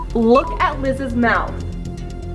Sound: beeping noise

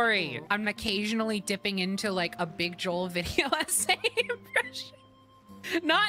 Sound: laughter

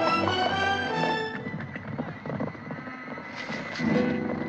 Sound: hoofbeats

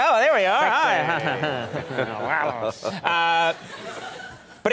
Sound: laughter

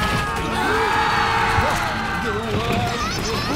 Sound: screaming; cars honking

